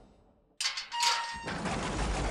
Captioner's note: door opens